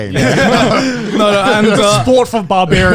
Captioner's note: laughing